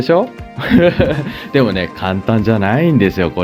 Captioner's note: laughter